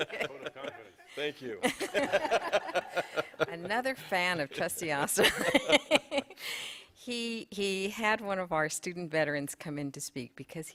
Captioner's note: laughter